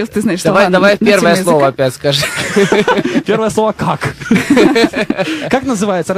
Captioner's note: laughing